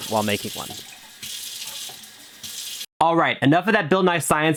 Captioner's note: water splashes